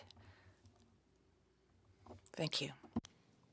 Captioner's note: speaking French